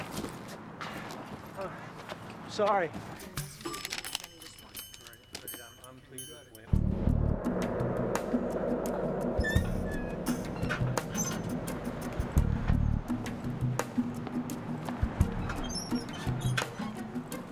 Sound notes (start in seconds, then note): 3.6 people chattering